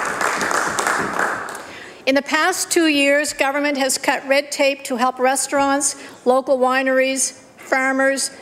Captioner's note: applause